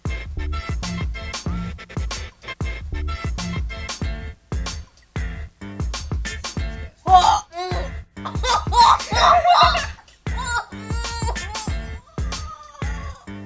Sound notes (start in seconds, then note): 8.2 gags